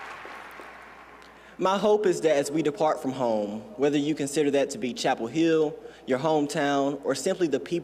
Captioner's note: cheers and applause